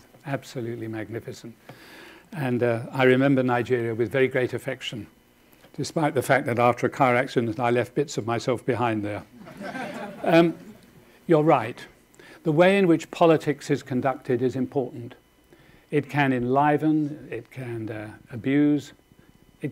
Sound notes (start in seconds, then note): 9.4 audience laughing